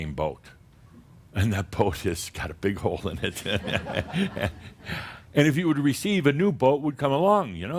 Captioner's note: Adamus chuckles again